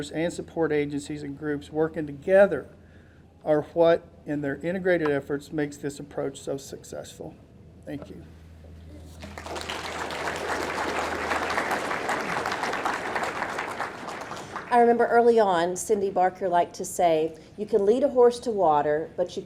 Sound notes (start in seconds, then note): 9.1 audience clapping